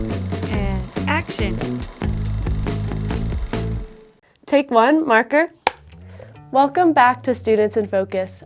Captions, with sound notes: And action! (upbeat music continues) (camera whirring) Take one, marker. (slate claps) Welcome back to Students in Focus.